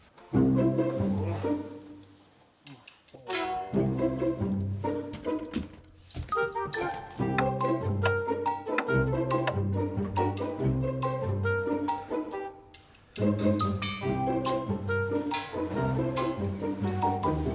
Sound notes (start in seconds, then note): 0.2 quirky music; 6.3 clock ticks